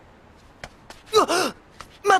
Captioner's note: Keita Ibuki gasps in shock